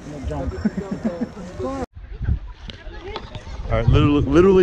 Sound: laughing

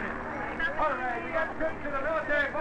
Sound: none

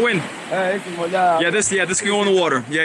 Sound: local speaking Portuguese

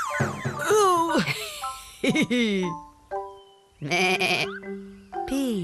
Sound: goat bleats; goats laughing

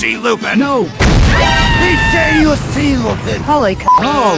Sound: boom!!!

